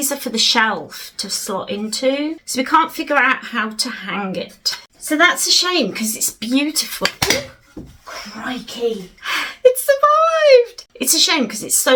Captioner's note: bang